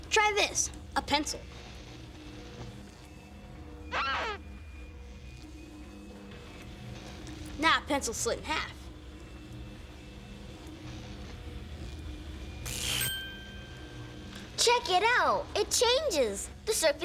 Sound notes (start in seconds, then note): 3.9 <i> squeaking</i>